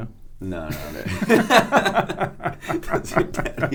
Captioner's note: both laugh